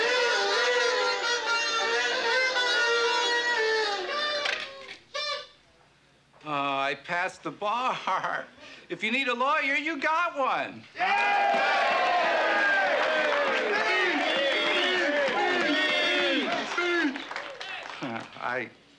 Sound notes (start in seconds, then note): 0.0 party blowers honking